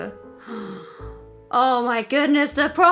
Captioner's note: gasps